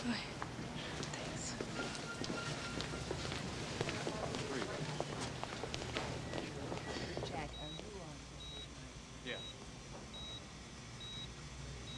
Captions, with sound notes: Go ahead. - Thanks. (machine beeping)